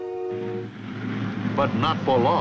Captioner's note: plane engine roaring